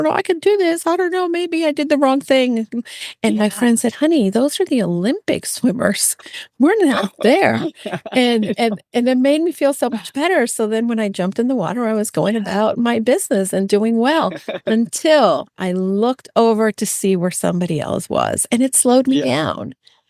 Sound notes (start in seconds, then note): 9.7 laughing